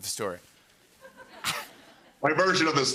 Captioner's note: laughter